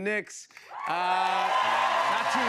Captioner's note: cheers and applause